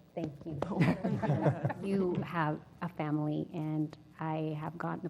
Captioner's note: laugh